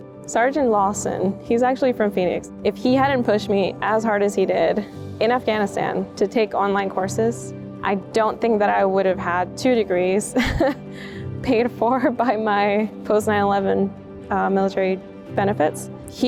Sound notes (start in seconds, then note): 10.3 chuckles